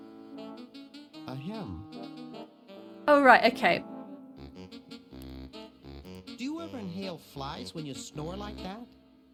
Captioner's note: ahem